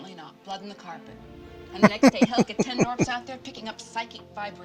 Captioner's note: laughing